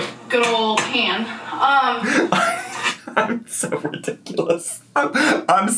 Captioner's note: laughing